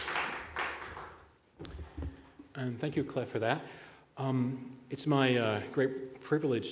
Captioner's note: applause